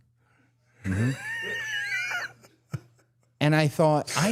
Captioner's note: Dallas laughing